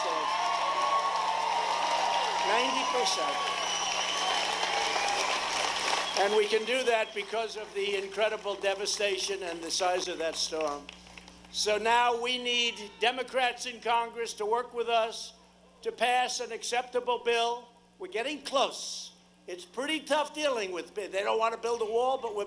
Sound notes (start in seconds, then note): 8.4 applause